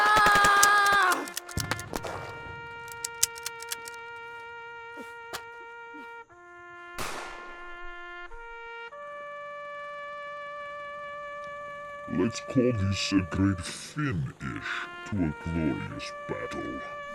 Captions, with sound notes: [yells] [empty gun clicks] Let’s call this a great FIN-ish to a glorious battle.